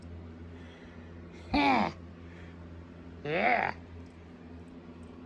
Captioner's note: laughs